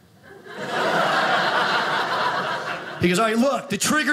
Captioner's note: audience laughing